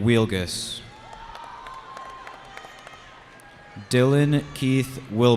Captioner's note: cheering